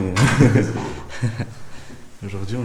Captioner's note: laughs